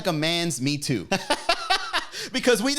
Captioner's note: commentator laughing